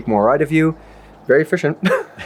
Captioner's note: laughs